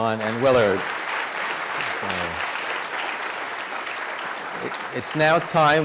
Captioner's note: congregation applauding